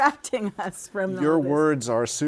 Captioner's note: laughter